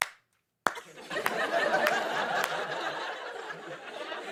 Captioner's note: laughter